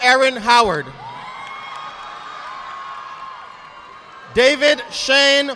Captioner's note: audience clapping